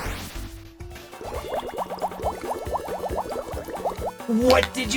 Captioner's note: angry fish noises